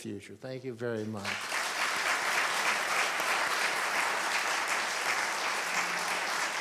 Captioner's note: applause